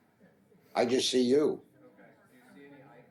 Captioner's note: voiceover